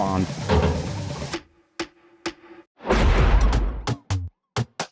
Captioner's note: machine clanging; timer ticking; lively music